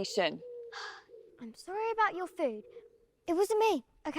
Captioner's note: sighing